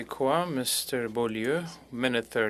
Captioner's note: speaking French